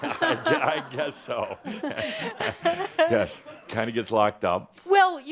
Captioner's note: chuckles